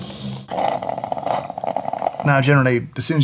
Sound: coffee brewing

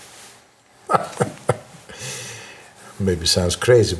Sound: laughs

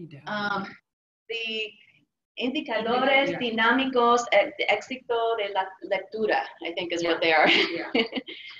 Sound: speaking spanish

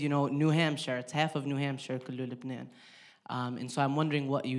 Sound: speaking in foreign language

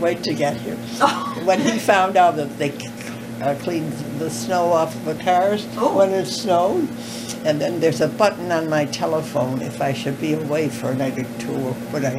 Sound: laughter

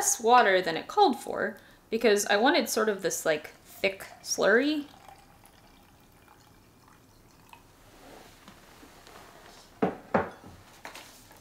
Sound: bubbling sounds

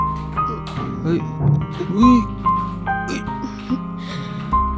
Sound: struggles

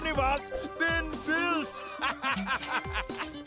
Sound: laughing

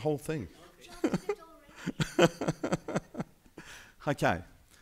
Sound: laughing

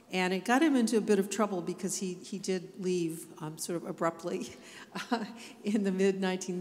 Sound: chuckles

